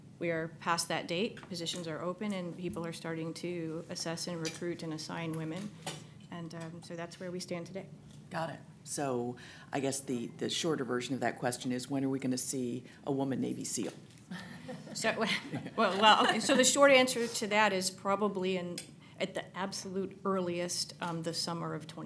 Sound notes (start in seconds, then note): 15.2 laughter; 15.2 chuckles